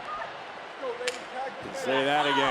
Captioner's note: hand slaps